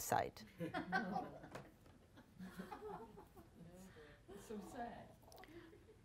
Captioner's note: audience laughs